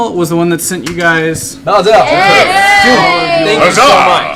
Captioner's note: cheering